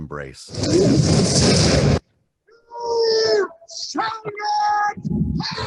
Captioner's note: radio hisses